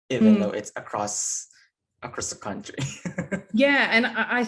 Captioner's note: chuckling